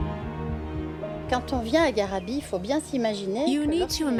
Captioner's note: speaking French